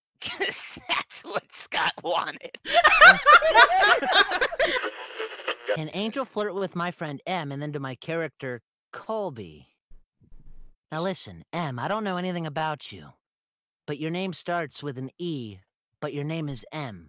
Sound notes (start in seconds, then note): 2.5 laughter; 4.8 radio tuning noise